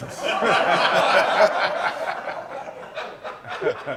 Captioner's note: laughter